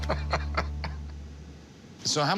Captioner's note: laughs